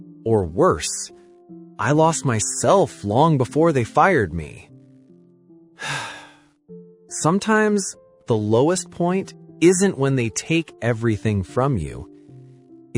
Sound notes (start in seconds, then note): 5.8 sigh